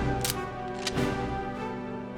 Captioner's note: cocks rifle